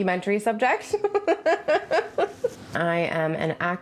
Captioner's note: laughs